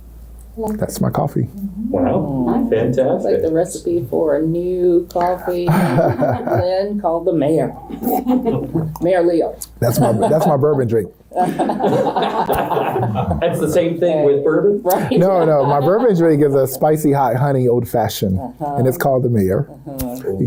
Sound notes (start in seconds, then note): 11.4 all laugh